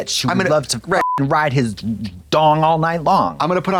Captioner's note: beep